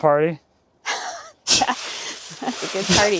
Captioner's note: both chuckling